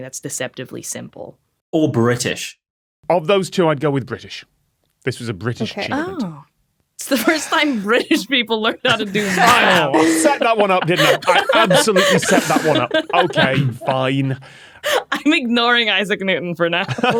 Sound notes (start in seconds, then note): 8.7 group laughing